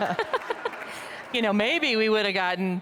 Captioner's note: audience laughing